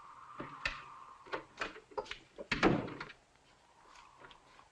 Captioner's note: wind blowing